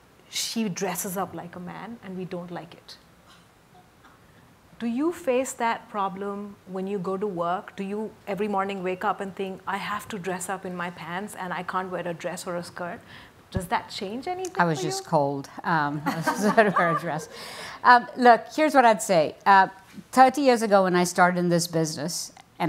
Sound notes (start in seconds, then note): 16.1 audience laughs